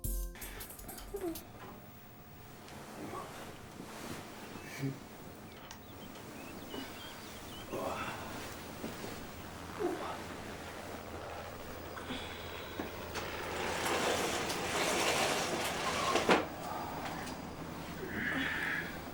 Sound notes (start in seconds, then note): 0.0 upbeat instrumental music; 11.8 helicopter whirring